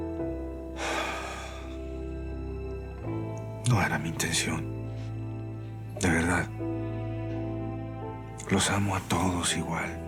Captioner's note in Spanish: exhala